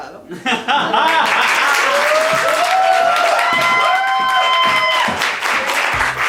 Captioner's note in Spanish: Vitoreos y aplauso